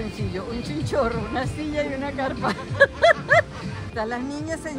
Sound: laughs

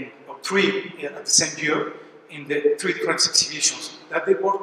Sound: french

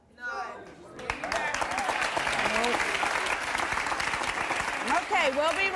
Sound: audience applause

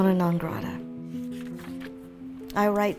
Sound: page flipping

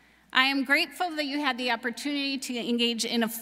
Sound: none

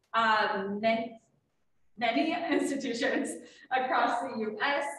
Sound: laughing

